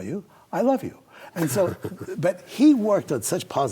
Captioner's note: chuckles